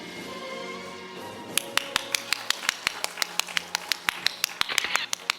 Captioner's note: audience applauding